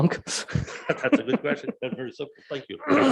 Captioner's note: laughing